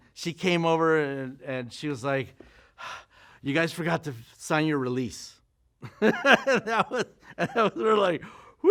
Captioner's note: laughs